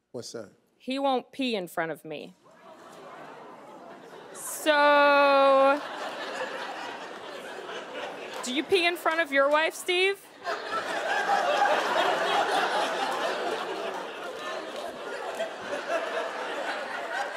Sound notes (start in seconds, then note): 2.4 audience chuckling; 10.2 audience laughing